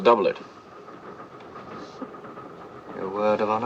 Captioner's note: train noise